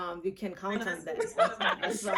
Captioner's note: laughs